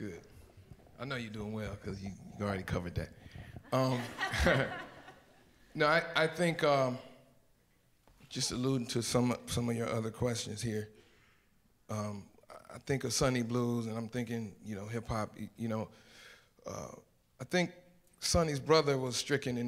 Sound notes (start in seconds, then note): 3.7 audience laughs